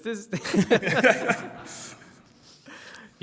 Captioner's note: laughter